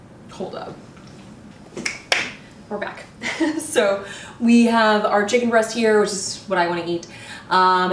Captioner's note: snaps